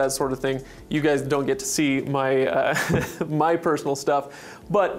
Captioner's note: laughs